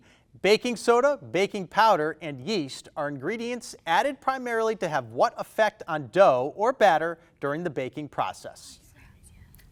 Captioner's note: none